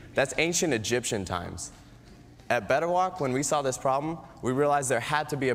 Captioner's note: none